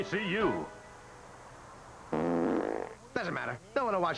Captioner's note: farting